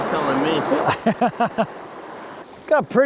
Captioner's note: laughs